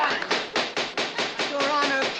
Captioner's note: gavel banging